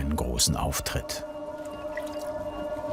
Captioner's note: whirring